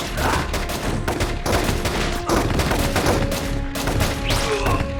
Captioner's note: gunshots